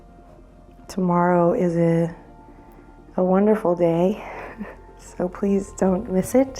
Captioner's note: chuckles